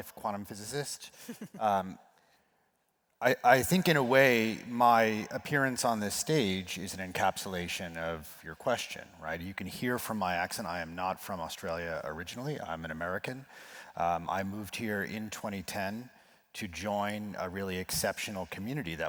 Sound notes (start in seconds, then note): 1.2 laugh